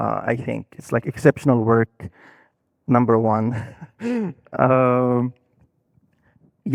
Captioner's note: laughing